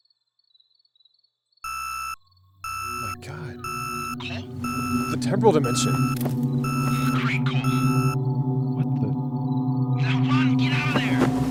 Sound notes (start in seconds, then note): 1.7 beeping